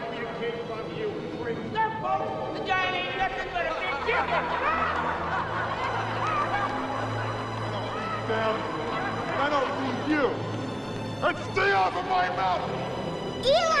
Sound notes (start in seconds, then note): 3.3 townspeople cackling; 4.6 solemn music intensifies